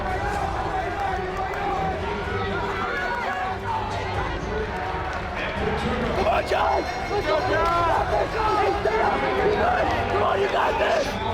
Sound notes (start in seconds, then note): 0.1 audience shouting encouragement